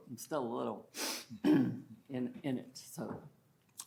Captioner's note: sniffles